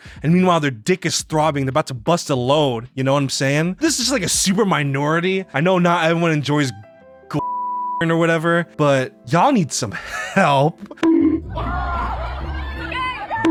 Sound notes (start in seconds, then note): 7.4 beeps; 11.3 audience laughing